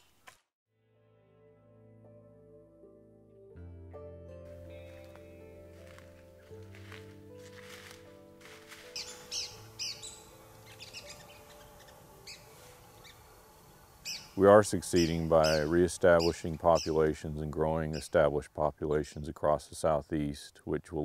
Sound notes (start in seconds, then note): 0.3 instrumental music plays; 6.5 footsteps in leaves; 8.5 woodpecker sings